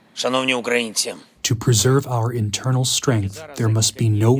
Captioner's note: through translator